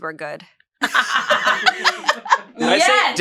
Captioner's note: laughs